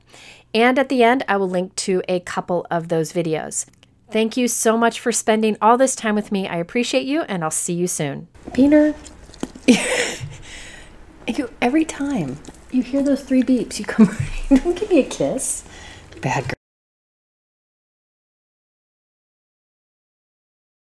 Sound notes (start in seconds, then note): 9.4 laughs